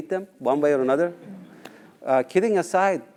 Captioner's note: laugh